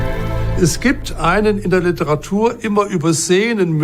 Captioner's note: in German